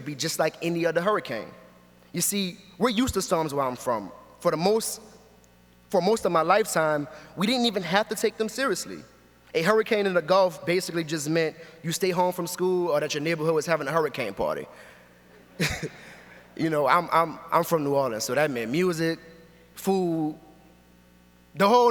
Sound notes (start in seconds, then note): 15.3 audience laughs